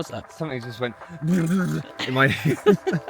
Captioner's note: bug sounds